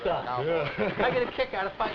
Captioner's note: chuckling